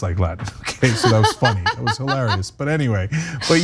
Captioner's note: laugh